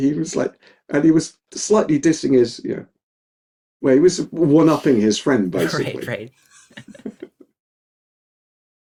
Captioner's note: laughing